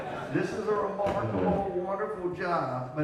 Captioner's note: crowd laughing